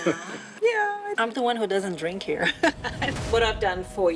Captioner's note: laughs